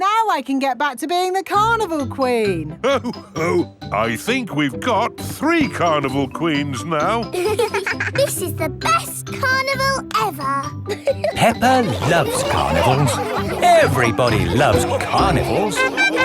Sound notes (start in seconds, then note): 7.9 both giggling